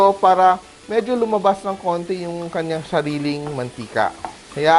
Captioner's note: sizzle